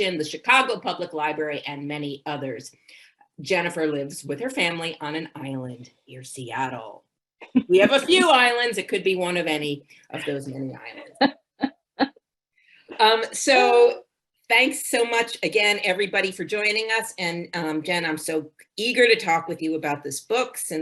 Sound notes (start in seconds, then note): 10.9 chuckling